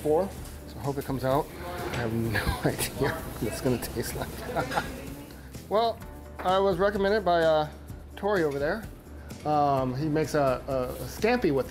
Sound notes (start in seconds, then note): 4.2 laughing